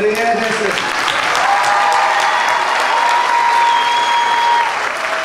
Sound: clapping and cheering

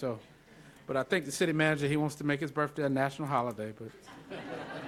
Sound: laughter

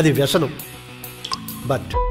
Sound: drips

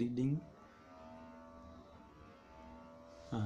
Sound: whirring sound

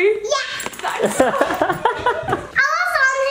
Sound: laughter

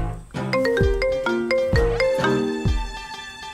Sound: mobile ringing

